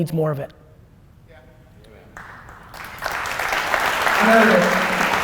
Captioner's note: applause